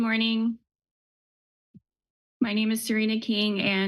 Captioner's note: pause